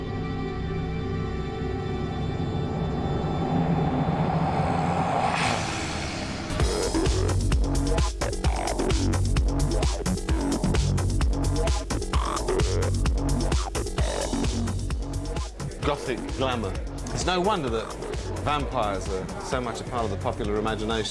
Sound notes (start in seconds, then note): 5.1 vampire snarls; 6.4 electronic dance music plays